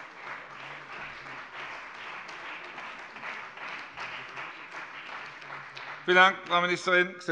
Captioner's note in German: Beifall bei der CDU und dem BÜNDNIS 90/DIE GRÜNEN